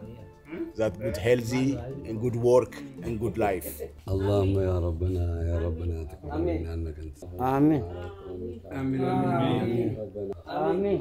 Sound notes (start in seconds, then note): 4.3 man chanting in Arabic; 7.6 crowd prays in Arabic